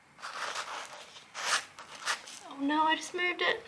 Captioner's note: scrubbing noises